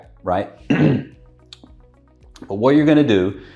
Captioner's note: coughing